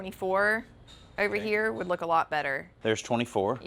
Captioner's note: none